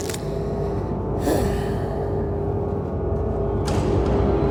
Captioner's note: elf sighing